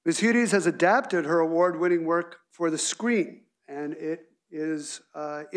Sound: none

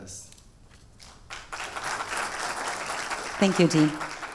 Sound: audience applause

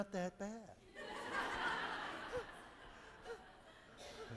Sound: audience laughing

